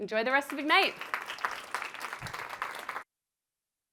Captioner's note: applause